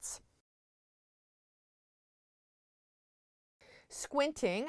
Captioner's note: no Sound Present